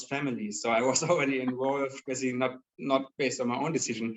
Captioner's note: laughing